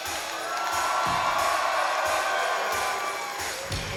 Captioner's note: crowd cheers